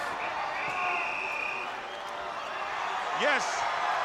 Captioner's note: crowd roars